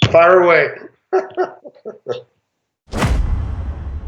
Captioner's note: laughs